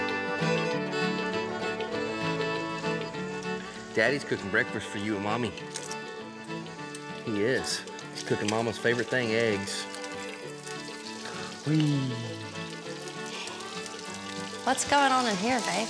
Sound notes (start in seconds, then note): 2.4 sizzling; 13.4 yawning